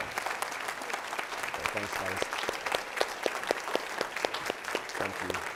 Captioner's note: applause